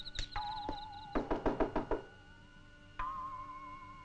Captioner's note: knocking